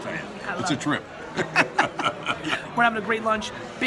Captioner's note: laughs